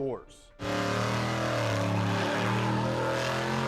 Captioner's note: engine revving